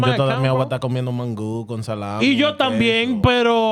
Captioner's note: speaking In Foreign Language